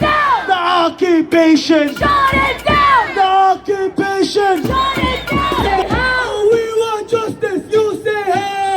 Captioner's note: chant